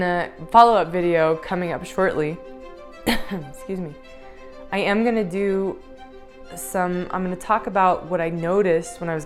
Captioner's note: coughs